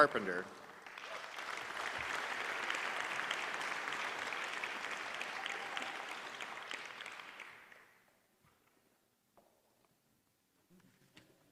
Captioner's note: applause